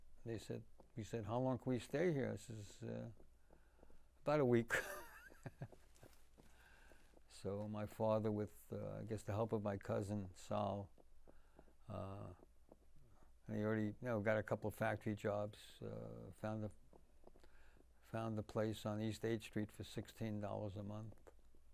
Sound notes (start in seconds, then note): 4.6 laughing